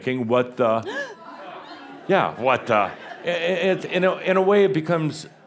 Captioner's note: gasps again; more chuckles